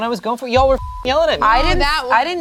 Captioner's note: beep